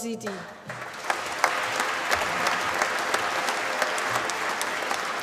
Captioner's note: applause